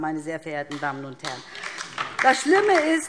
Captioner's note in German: Beifall DIE LINKE